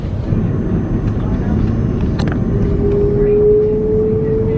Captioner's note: engine whirring